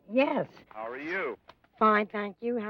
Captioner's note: on phone